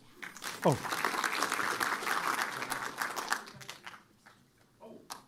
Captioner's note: applause